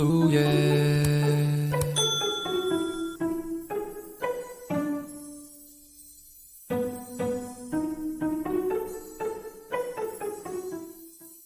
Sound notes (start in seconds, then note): 1.7 mouse clicking; 1.9 bell ringing